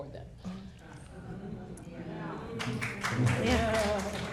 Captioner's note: people clapping